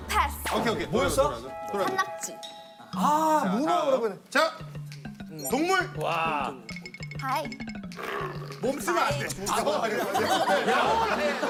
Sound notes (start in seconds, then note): 5.3 hyena; 8.0 rawr